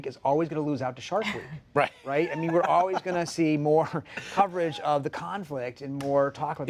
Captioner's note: laughter